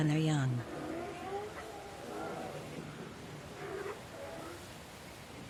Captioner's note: sea lions barking